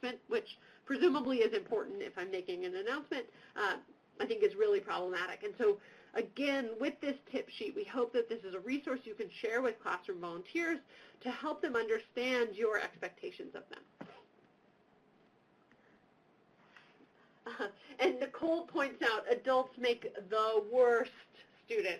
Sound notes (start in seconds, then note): 17.5 laughs